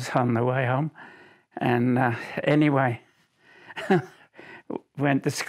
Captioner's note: chuckles